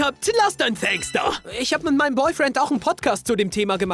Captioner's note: German